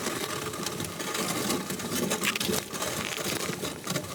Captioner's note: metal dragging over ice